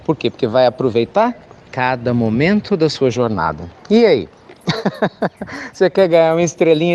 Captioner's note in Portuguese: Risos